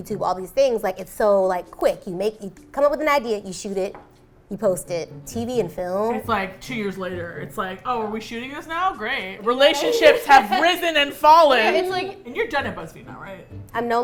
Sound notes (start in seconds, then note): 8.5 sarcastically; 9.6 laughs